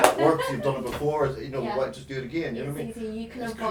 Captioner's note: laughing